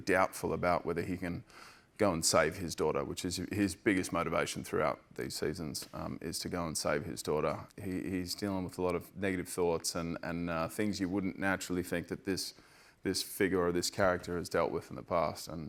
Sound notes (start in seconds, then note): none